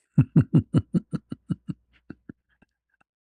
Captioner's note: ketawa